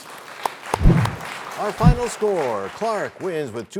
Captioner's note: applause